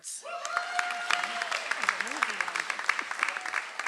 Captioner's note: audience applauds